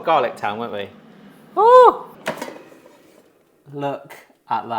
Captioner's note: air fryer clicking